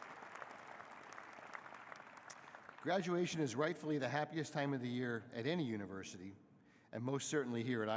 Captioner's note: applause